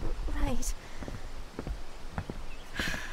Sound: deep breath

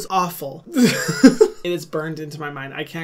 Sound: laughs

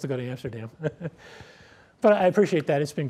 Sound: laughs

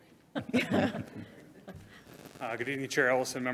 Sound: all laugh

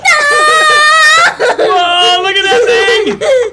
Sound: child screaming

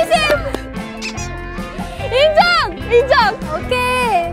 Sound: haha

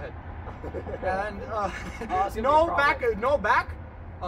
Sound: chuckling

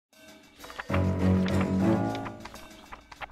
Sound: pages flipping

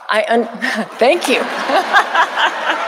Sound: audience applauding

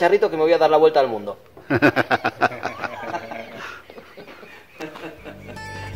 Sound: laughs

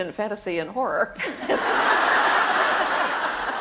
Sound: laughter

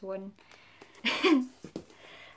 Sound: laughs

